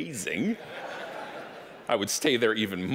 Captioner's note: audience laughing